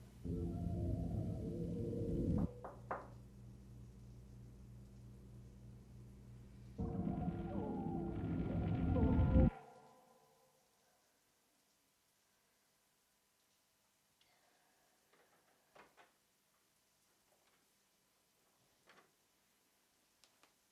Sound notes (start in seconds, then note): 0.0 gentle music; 2.4 door knocking; 6.7 gentle music